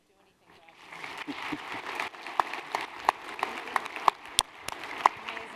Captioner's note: applause